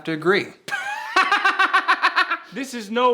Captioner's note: laughing